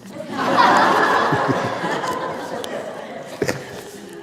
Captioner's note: laughter